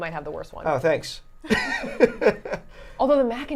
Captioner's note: laughing